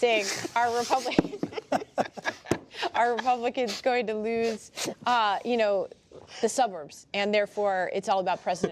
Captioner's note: laughter